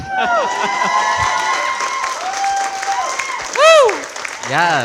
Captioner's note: audience cheering, applauding